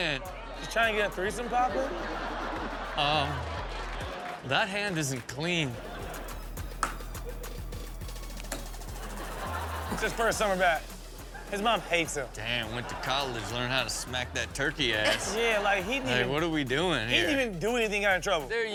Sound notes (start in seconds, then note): 6.6 spoon knocks; 6.8 groovy music